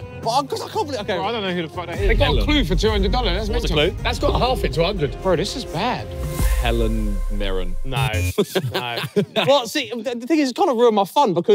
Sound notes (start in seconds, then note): 8.2 contestants laughing